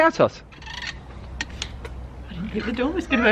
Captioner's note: door opening